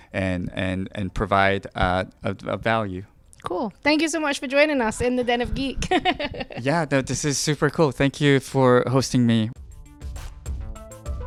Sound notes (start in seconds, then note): 5.3 laughing